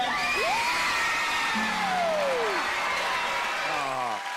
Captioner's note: cheers and applause